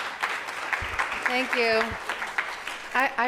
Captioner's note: audience clapping